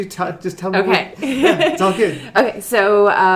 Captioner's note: laughing